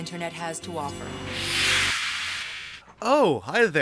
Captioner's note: whoosh